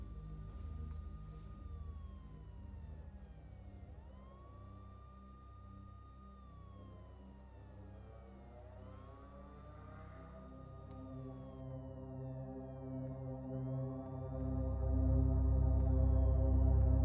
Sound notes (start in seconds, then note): 0.6 sirens wailing; 11.9 tense music